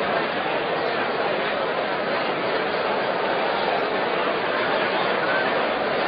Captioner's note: general chatter